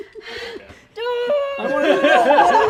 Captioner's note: grunts; both laugh